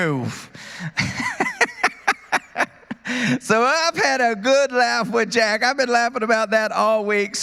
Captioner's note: laughter